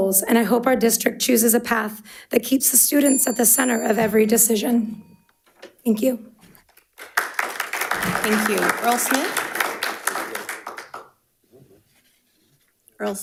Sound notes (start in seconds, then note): 3.0 bell dinging; 6.8 audience applauding